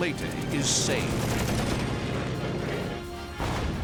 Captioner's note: rapid gunfire